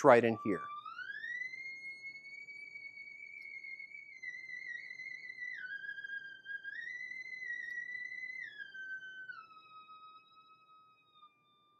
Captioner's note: high frequency sound